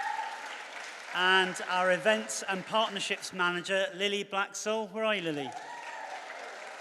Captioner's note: cheers and applause